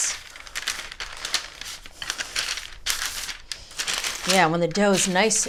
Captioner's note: paper crinkles